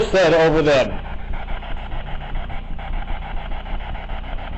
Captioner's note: static buzzing